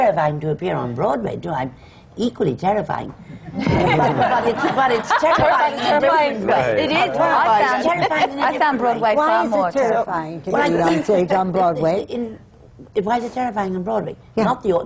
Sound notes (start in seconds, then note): 3.5 laughter